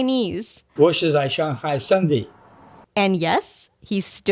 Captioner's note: speaks in Chinese